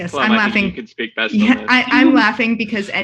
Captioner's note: chattering indistinctly